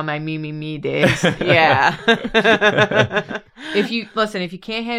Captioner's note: laughter